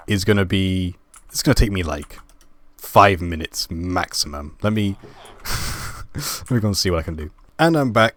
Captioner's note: laugh